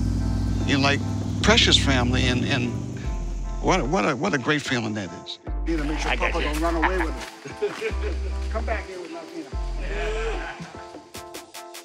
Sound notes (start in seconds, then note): 5.9 laughter